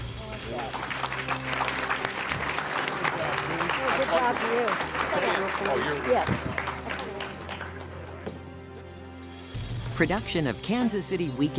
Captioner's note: applause